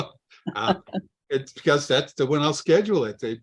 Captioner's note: laughs